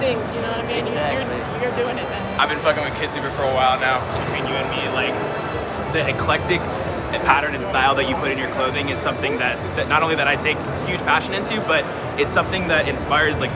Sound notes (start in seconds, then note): none